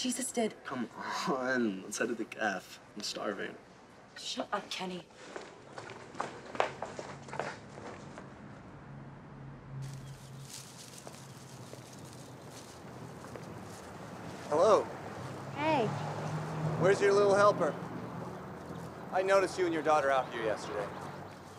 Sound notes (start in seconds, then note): 10.2 birds chirping